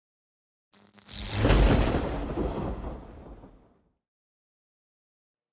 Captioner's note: lightning crashes